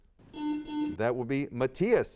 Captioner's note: buzzer sounds